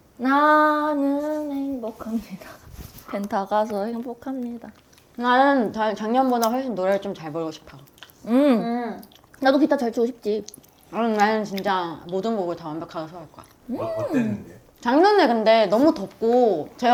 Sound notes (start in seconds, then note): 10.9 vocal determination